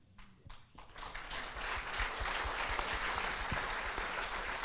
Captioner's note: crowd applauds